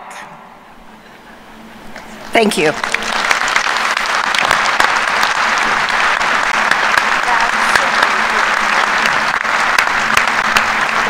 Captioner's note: applause